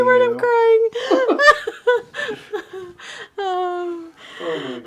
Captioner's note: laughing